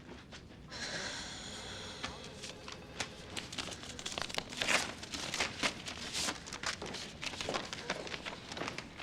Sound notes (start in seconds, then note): 0.7 kerry exhales deeply